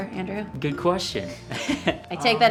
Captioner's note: laughing